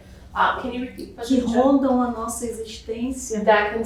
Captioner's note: speaking portuguese